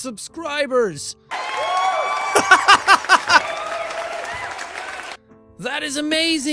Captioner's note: cheering sound effects